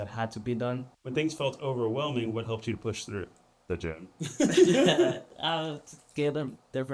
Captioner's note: laughter